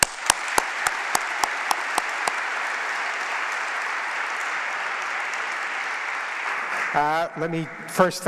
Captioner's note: applause